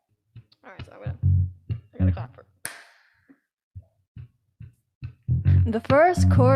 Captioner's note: claps; faintly speaking